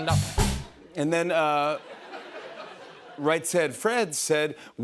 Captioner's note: laughter